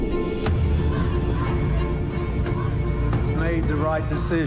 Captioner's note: protestors clamoring